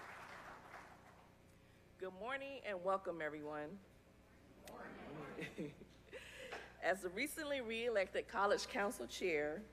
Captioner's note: applause